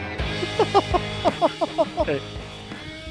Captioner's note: laughing